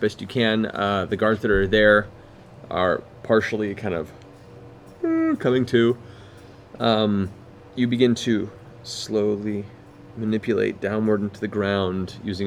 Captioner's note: yawns